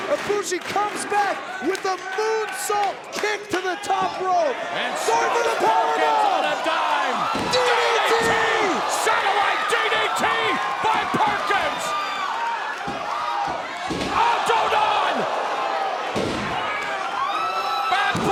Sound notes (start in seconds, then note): 12.2 crowd cheering; 14.5 speaking Japanese